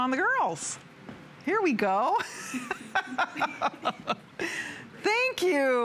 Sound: laughter

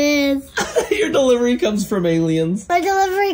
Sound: chuckles

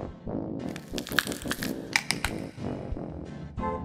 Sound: cracking sound

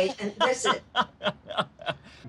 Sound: laughing

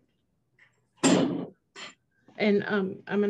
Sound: hotel staff clattering

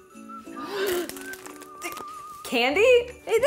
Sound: gasps

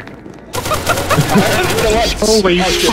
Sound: laugh

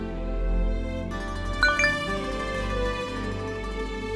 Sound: mobile chiming

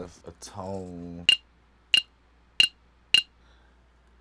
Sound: glass clinks

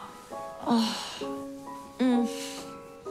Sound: she sighs and groans

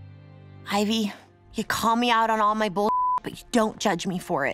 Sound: beeps

